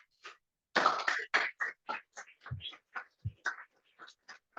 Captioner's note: applause